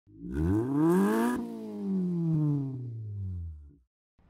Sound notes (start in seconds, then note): 0.1 engine revs